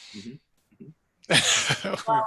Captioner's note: laughs